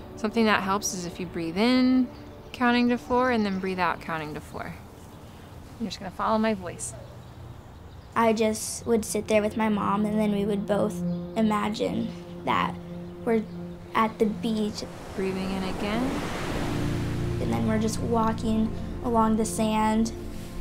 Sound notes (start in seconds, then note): 13.6 waves crashing